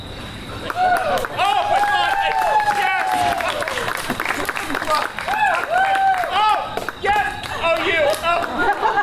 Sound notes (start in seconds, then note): 0.6 audience cheering; 8.3 audience laughs